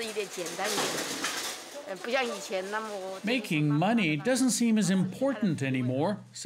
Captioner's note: speaking foreign language